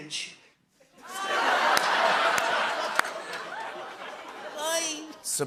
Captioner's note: laughter